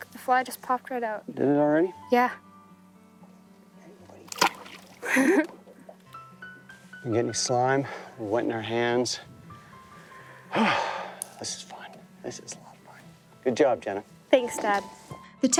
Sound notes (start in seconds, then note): 10.2 sighs